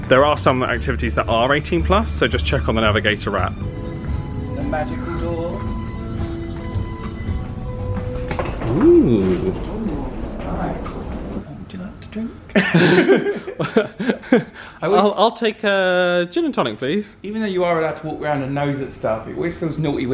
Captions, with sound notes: There are some activities that are 18-plus. So just check on the navigator app. - The magical doors. (smooth lounge music) - Ooh. - Ooh, nice. Would you like to drink? (both laughing) I was-- - I'll take a gin and tonic please. - Even though you are allowed to walk around and nose at stuff, it always feels naughty